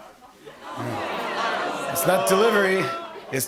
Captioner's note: audience groans